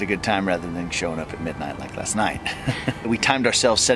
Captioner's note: laughs